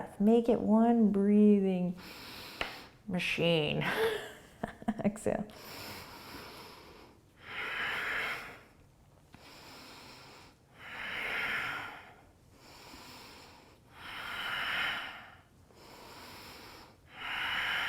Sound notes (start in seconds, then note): 3.8 laughing; 5.5 deep breathing